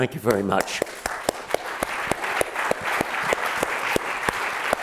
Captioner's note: applause